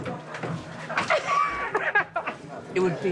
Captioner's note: man laughing